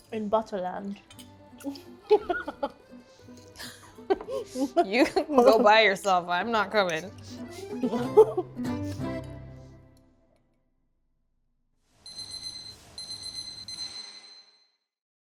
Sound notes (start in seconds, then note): 1.6 laughing; 7.5 bright music; 12.0 alarm beeping